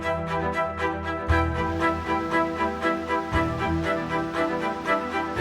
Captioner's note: wind blowing